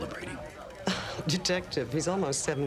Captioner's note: Nora laughs